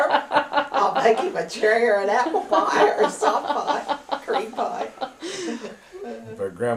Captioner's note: laughter